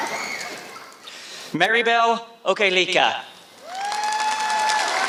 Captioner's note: applause